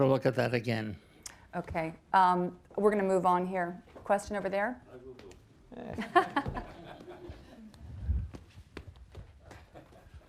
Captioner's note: chuckles